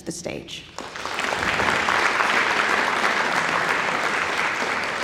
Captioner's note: audience applauding